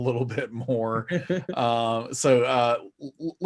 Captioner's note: laughs